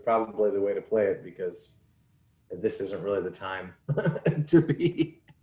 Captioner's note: laughs